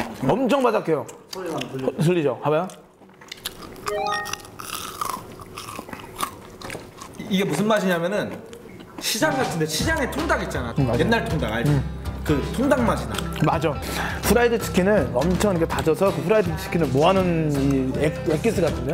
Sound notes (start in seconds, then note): 2.6 the crunchy chewing sound!